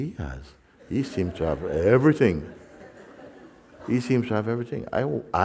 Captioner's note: Lachen